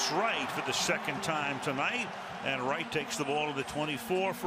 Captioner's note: pa announcement